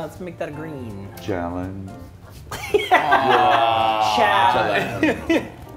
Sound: laugh

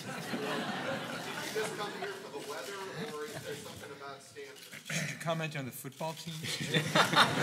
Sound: laugh; laugh

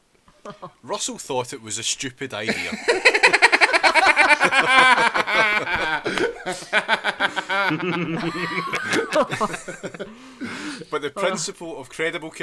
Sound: laughter

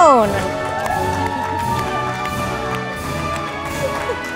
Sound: audience applauding

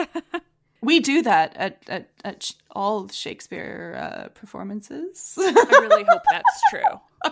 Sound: laughs

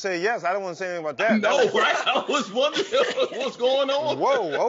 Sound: laughs

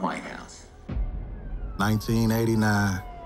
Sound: deep tone

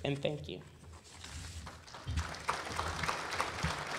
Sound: applause

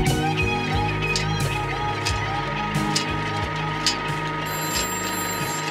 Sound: projector reel whirring and clicking; music fades; telephone ringing

